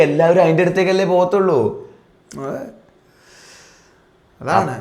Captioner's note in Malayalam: ചീറ്റുന്നു